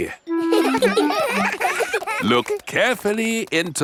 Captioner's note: children laughing; laughs